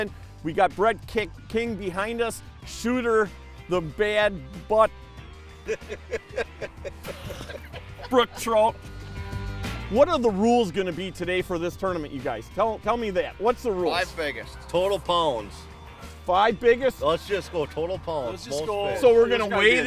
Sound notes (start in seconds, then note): 5.6 laughing